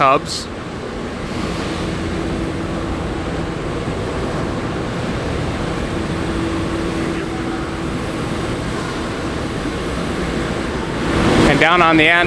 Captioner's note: buzzing sound